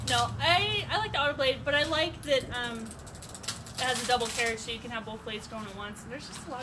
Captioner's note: none